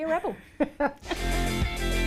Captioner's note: laughing; upbeat music